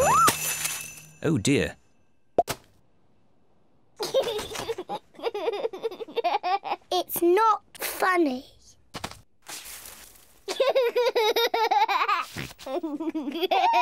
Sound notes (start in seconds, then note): 4.0 giggles; 10.5 laughs